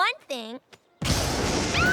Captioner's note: thunder crashes